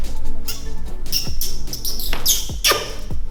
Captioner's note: kissing